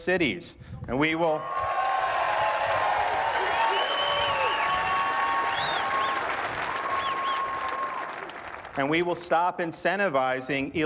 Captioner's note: cheering and applause